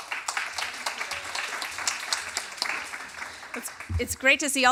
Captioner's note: applause